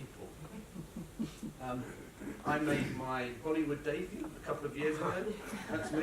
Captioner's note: laughter; laughter